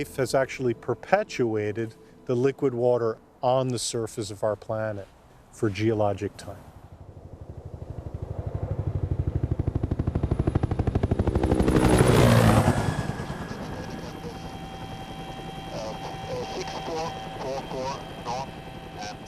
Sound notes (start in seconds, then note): 7.1 helicopter blades churn